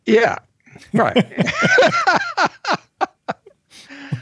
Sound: both laugh

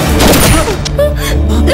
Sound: gunshot

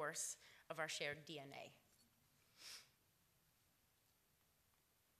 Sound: none

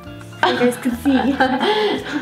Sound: laughs

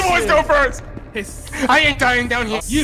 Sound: hisssss

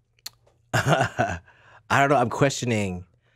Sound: laughs

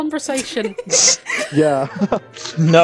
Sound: laughter

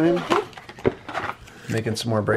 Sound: box flapping

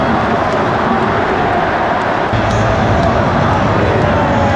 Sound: crowd

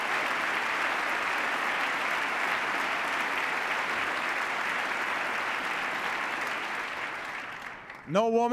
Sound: cheers, applause

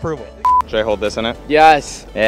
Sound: beep

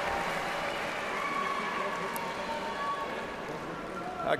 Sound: applause

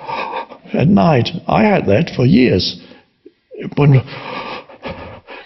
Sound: breathes heavy; breathes heavy

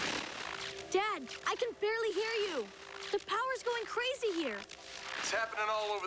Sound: static

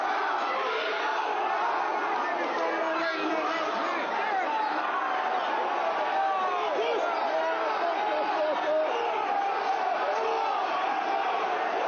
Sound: chanting

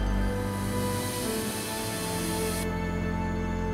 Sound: sound of hose watering plants

